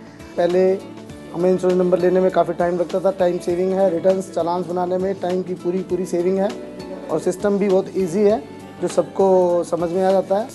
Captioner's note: non-english